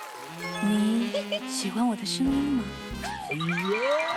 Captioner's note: big sister voice